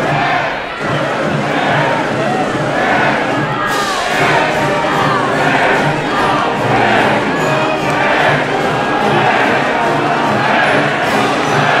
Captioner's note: crowd chanting